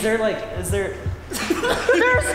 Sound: laugh

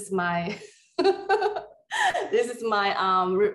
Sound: laughing

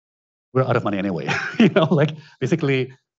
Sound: laughs

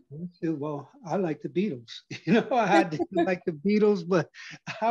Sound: laugh

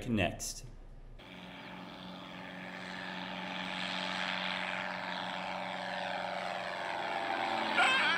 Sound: plane Buzzing

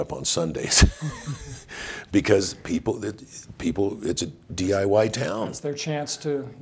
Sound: chuckles

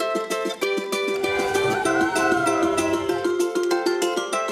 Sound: crowd cheering

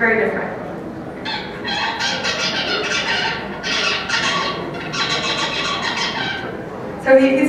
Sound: bird song

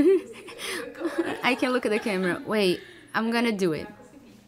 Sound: laughing

